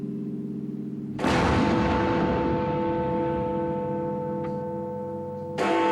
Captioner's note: bell tolls; explosion